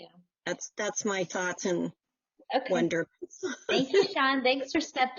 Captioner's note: laughs